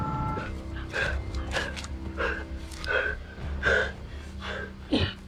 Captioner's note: Miles and Rich panting